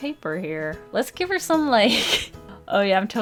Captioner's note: laughs